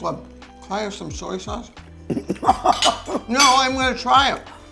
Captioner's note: laughing